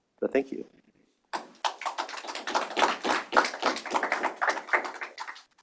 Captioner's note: applause